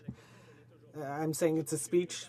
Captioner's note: speaking in French